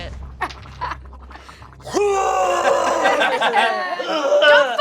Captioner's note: Ragh retching